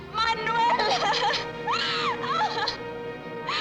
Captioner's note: sobbing